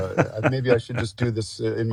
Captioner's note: laughs